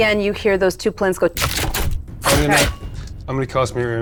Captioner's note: mimics arrow zipping